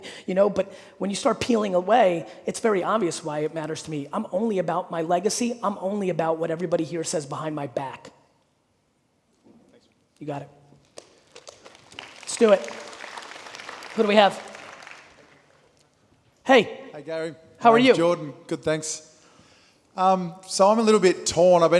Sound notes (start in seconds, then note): 11.1 audience applauding